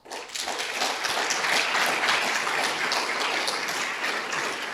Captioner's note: audience applauding